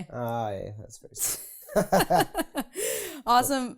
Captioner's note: laughing